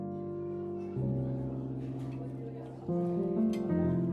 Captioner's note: gentle music; patrons chattering